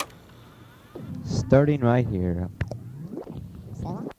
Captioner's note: voiceover